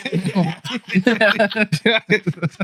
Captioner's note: laughing